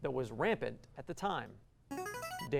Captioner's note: buzzer